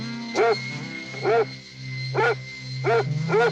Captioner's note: Pete barking